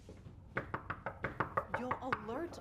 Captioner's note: knocking